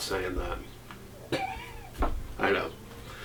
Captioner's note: speaker chuckling